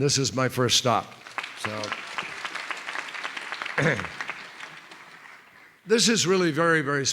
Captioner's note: applause